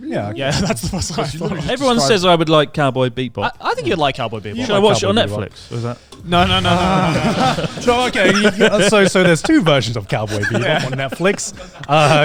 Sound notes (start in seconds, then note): 0.3 chuckling; 6.2 all laughing